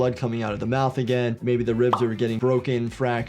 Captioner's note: soft upbeat music plays; graphic pops